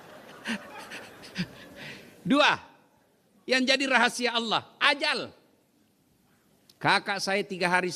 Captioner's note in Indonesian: tertawa